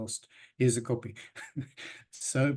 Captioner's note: laughs